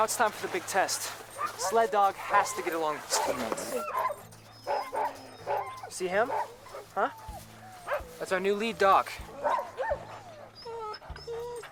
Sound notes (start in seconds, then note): 7.3 dogs barking